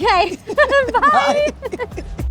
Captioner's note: both giggling